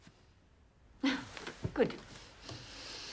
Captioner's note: chuckles